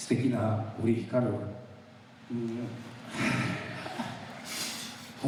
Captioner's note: speaking in foreign language